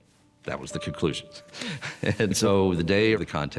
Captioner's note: laughs